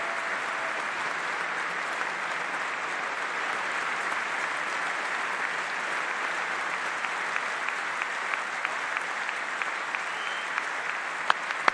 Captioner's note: applause